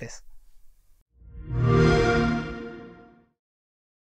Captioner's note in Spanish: Sonido Xbox